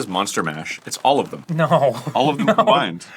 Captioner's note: whimpers